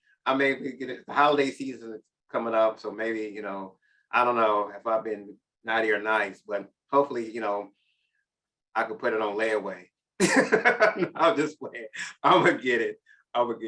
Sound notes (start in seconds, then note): 10.2 chuckles